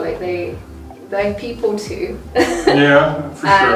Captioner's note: laughs